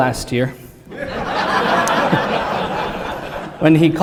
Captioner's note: applause